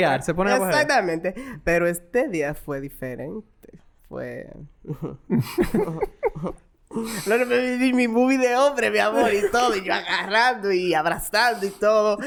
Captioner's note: laughs